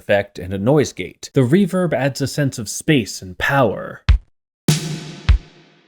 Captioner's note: bang